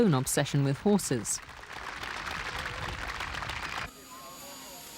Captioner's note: audience clapping